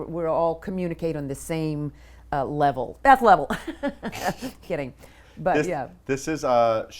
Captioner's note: laughs